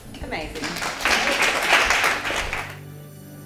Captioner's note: applause